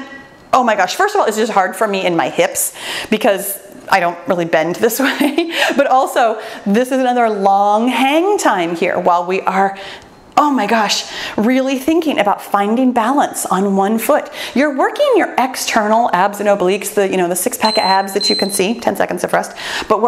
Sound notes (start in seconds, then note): 17.6 timer beeps